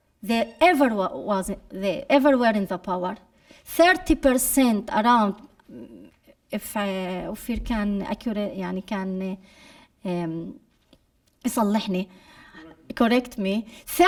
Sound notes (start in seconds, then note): 9.5 speaking arabic